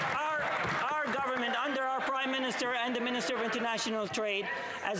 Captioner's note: some Applause